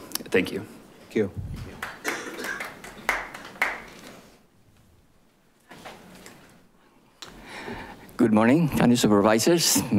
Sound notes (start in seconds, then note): 3.6 audience applauding